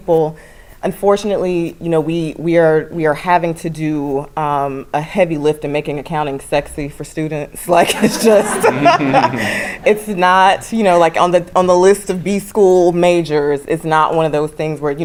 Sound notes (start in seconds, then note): 7.9 laugh